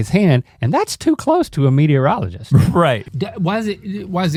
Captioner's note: laughs